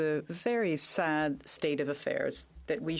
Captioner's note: speaking in French